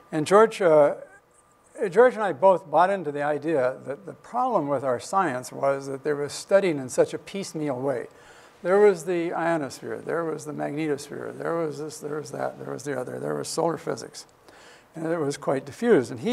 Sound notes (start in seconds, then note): none